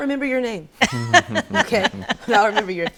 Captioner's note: laughs